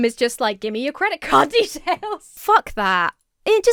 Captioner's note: laughs